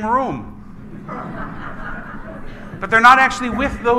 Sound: congregation laughs

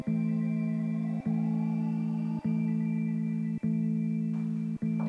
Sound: SIRENS fade out

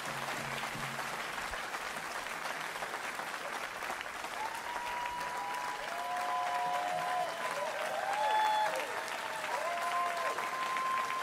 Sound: cheers and Applause

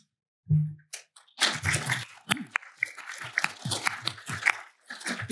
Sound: applause

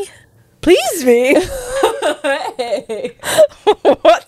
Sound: laughing

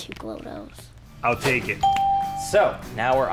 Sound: ding

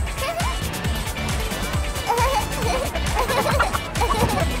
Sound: laughter

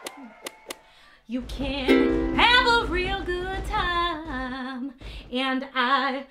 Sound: whoosh, whoosh, whoosh, whoosh; sung; fireworks

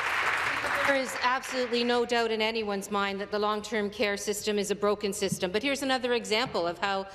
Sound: some Applause

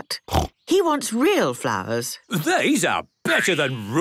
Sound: snorting

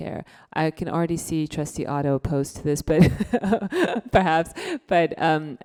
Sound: laughs

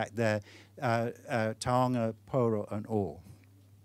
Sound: speaking foreign language

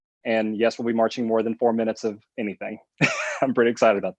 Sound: laughs

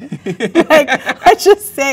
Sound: both laugh

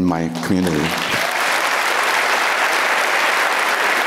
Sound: applauds

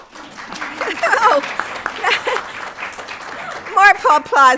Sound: applause

